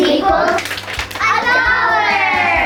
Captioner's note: clapping